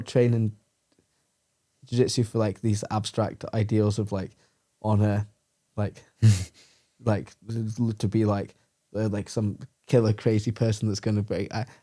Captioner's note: laughs